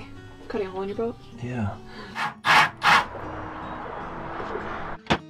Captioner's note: drill whirs